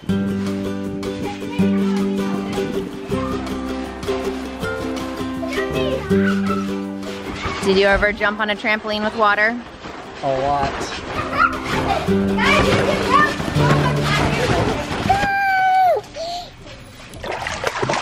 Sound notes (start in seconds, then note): 0.3 playful music; 5.7 kids chatter; 11.2 kids giggle